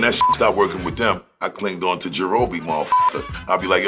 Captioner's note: beep; beep